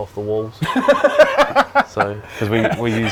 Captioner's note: laughs